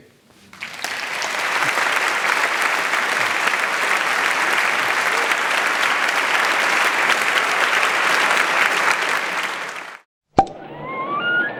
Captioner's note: applause